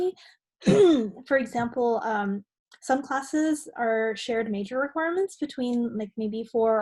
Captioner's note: cough